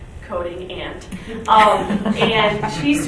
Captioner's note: laughing